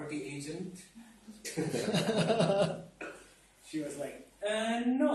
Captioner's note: audience laugh